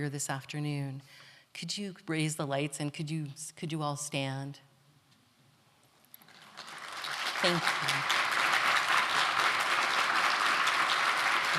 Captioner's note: applause